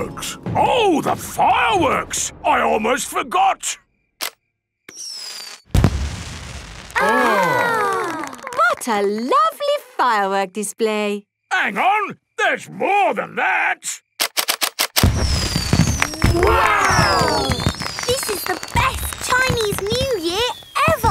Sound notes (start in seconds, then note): 7.0 exclamations